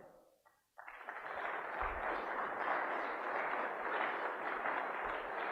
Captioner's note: applause